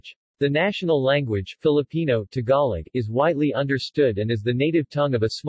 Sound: Tagalog

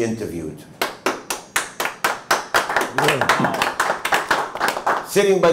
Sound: applause

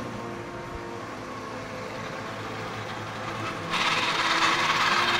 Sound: machinery runs

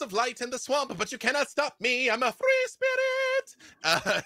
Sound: laughs

